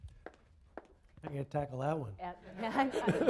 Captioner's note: laughter